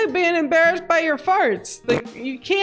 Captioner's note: farting sound